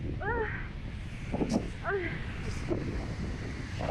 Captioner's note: moaning